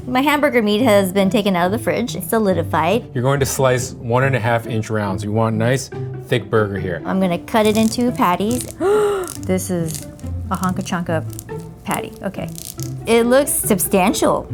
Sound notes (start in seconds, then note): 8.6 gasping